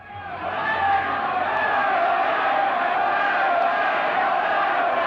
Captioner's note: angry crowd sounds